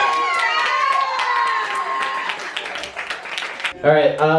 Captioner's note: cheering